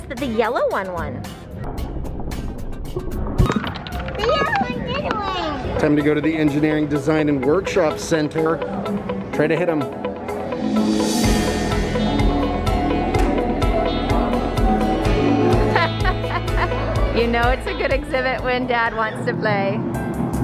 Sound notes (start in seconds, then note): 10.5 upbeat music; 15.5 laughs; 20.2 happy music